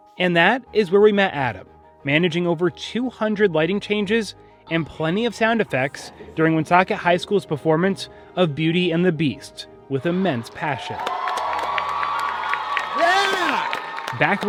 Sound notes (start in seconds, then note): 10.0 people cheering; 10.7 people clapping